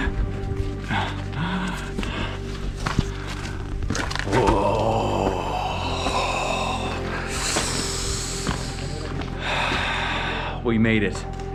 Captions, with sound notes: Whoa. (exhales sharply) We made it.